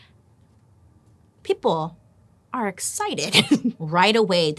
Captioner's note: laughs